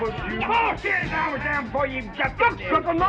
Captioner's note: yelling